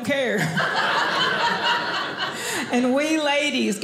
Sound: audience laughing

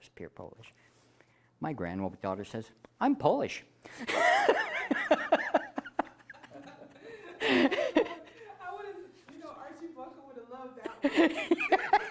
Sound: laughing

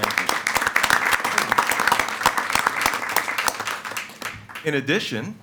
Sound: attendees applauding

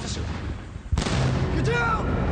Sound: shots crack

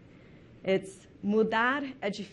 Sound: speaking in foreign language

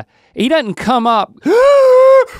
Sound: gasping

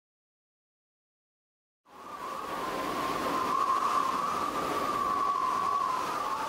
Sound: sound of wind blowing

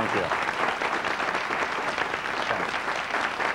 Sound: applause

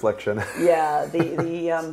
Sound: laughing

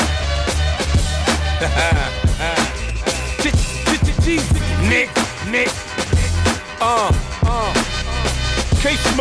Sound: laughing

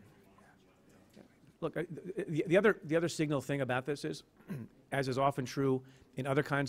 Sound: stutters

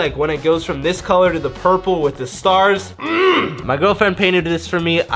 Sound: grunts

